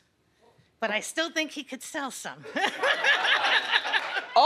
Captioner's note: laughs